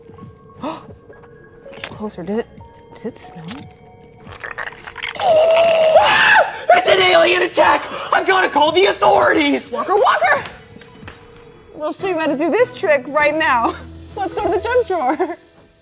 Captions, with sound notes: (gasps) Get closer. Does it, does it smell? (goo squelches) - Aah! It's an alien attack! I've got to call the authorities! - Walker, Walker! We'll show you how to do this trick right now. Let's go to the junk drawer.